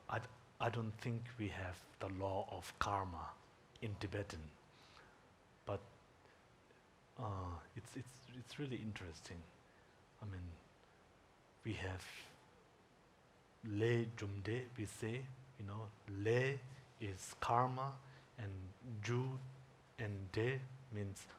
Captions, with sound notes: I don't think we have the law of karma in Tibetan. But it's really interesting. I mean we have [speaking in Tibetan] we say. Lay is karma, and jum and de means cause and effect.